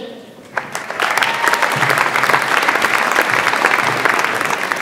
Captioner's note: audience applauds